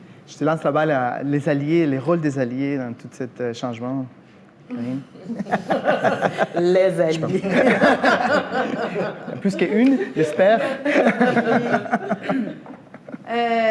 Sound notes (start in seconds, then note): 4.6 laughs